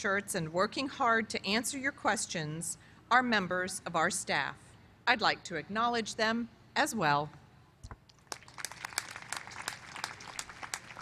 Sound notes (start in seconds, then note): 8.2 applause